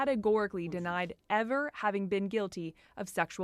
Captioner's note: speaking French